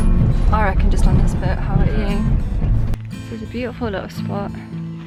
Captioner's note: none